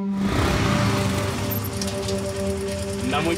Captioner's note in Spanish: Ruido de las motos